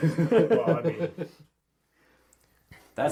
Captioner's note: all laugh